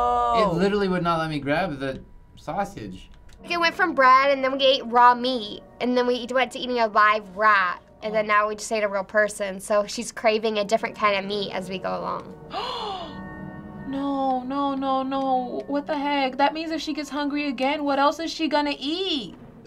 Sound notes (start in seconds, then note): 12.5 gasping